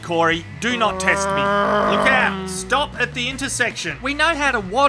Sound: vvvrrrroom

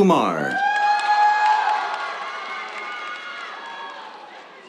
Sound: cheers, applause

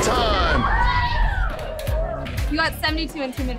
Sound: cheering

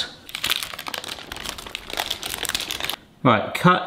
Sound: baking paper crinkling

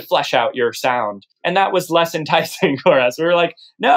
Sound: laughter

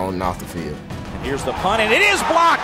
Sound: voiceover

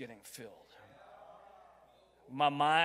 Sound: crowd

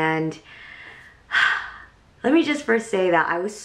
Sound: sighs

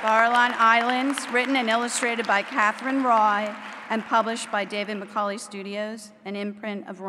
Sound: applause

